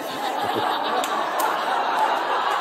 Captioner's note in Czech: smích